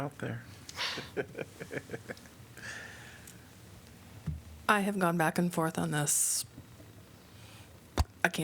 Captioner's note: laughter